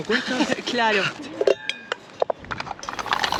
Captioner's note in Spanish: risas